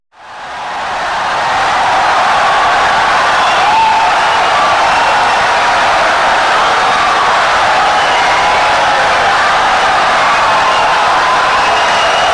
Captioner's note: wild applause and cheering for 17 seconds